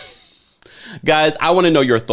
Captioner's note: laughing